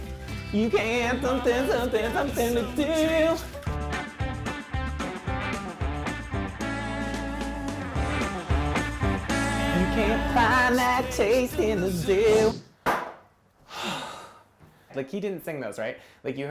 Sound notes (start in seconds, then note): 13.6 host sighs